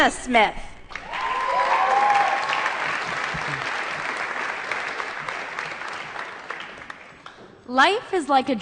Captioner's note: applause